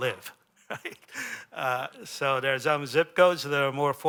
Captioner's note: laughter